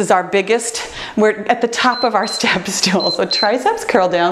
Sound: timer beeps

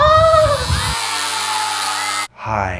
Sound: razor buzzes, hairs scream in terror

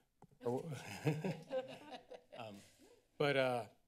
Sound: laughter

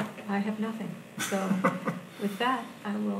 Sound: laughs

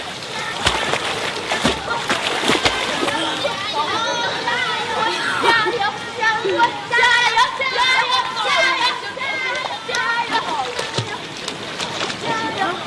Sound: kids cheering

